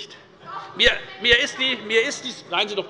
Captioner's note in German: Zuruf